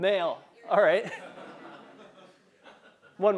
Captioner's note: laugh